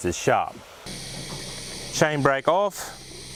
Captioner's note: grinding